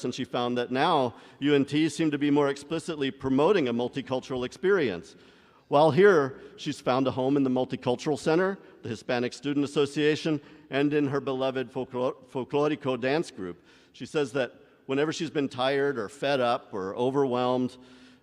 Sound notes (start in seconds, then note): none